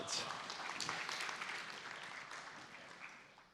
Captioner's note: applause